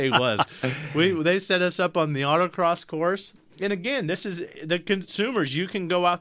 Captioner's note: both laugh